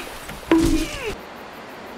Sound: bonk

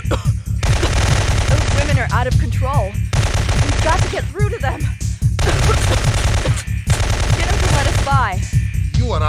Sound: coughs

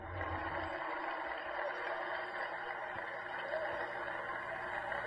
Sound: crowd clapping

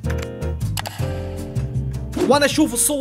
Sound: click

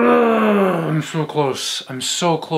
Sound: upbeat music plays; grunts

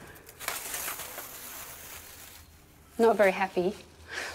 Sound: material rustling

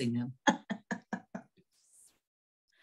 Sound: chuckles

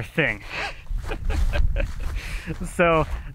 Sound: laughs

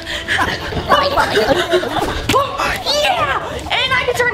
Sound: germs gibbering

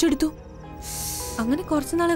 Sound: breathes in heavily

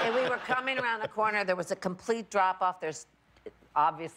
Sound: laughter

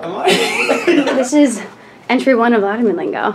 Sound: laughs

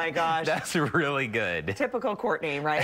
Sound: laughter

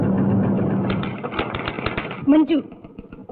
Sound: typewriter keytop clacking

